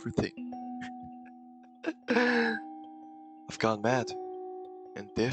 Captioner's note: quiet soft laughter